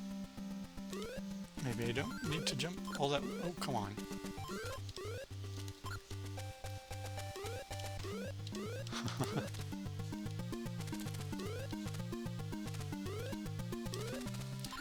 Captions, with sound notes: maybe i don't need to jump all that - oh, come on. [laughs]